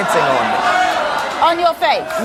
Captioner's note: audience exclaims in disbelief